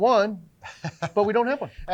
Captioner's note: chuckling